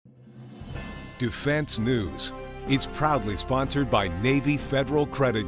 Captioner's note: male Voice